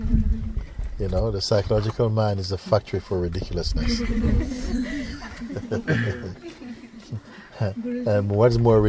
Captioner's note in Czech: smích